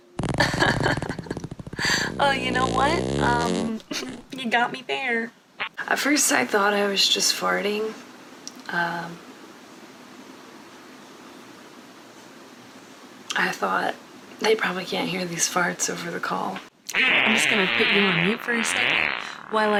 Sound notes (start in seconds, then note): 0.2 farting; 0.4 laughing nervously; 3.9 farting; 16.9 farting